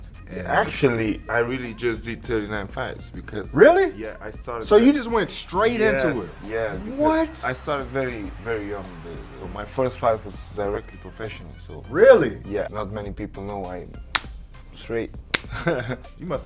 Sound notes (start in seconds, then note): 15.3 hand smack; 15.3 hand smacking; 15.4 laughing